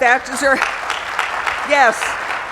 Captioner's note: applause